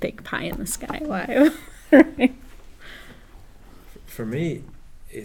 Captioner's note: laugh